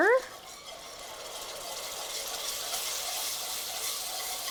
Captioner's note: pan sizzling